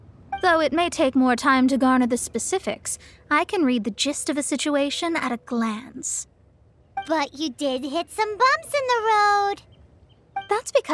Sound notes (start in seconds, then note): none